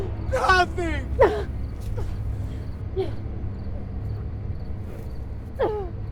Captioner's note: Linda groaning